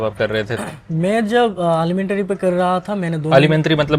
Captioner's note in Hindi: गला साफ़ करने की आवाज़